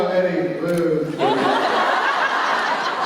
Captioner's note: laughter